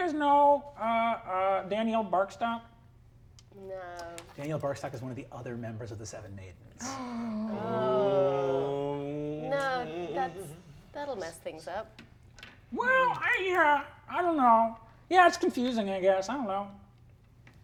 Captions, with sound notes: do you guys know Danielle Barkstock? - No. - Danielle Barkstock is one of the other members of the Seven Maidens. (all gasping) - No, that's, that'll mess things up. - Well, yeah, I don't know. Yeah, it's confusing, I guess, I don't know.